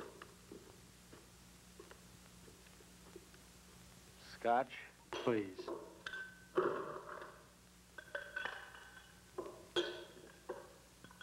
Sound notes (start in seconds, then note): 7.6 ice cubes clinking